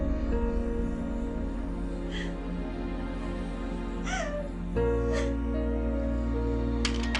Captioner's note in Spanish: Sollozos